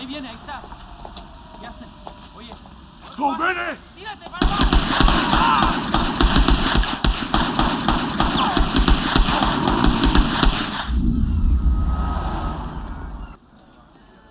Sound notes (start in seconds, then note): 0.2 speaking Spanish; 2.8 shouts in Japanese